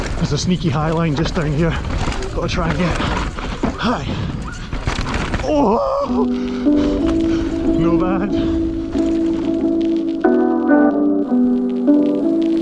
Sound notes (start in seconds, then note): 5.4 wailing; 9.2 spacey ambient music